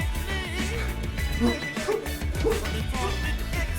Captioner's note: laughing